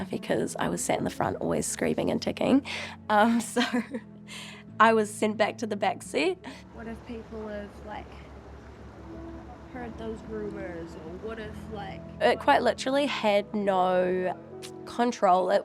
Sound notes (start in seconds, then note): 3.5 chuckles